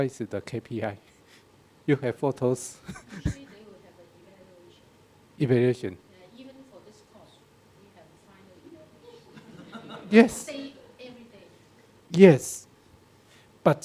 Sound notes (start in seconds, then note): 2.8 laughs; 3.1 woman speaking in background; 7.8 woman speaking in background